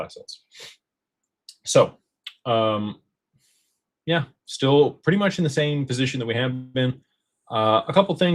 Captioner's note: snorts